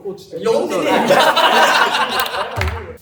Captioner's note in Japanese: 笑い声